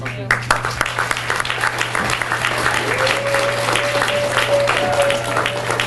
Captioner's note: audience cheers and applauds